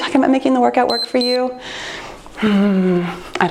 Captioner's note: timer beeps